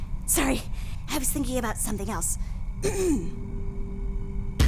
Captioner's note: clears throat